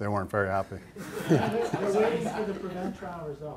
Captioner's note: laughter